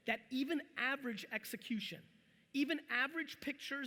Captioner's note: none